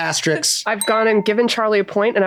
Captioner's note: bell dings